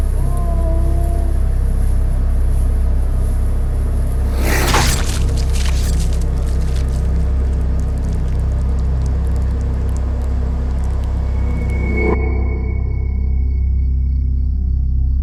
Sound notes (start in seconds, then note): 0.6 muffled whimpering; 4.2 knife slices; 4.2 blood squelches; 12.8 crickets chirp